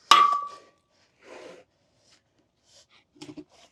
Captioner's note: metal clangs